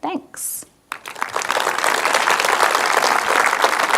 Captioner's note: applauding